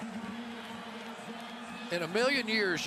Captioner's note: pa announcement